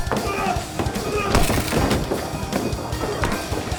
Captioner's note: chair crashes